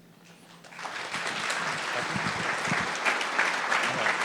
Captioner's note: applause